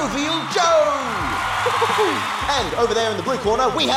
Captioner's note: audience cheer and applaud